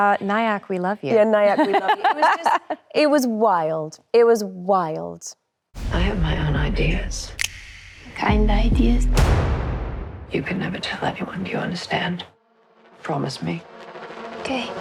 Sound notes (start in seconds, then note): 1.3 laughs; 7.4 fingers snapping